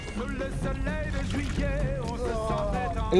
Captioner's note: beep; water splashes; Rahim groans